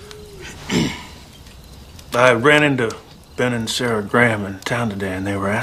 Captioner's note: clears Throat